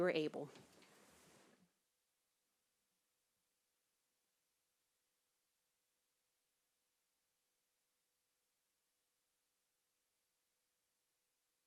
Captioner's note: silence